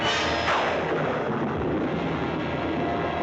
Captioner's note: thunderclap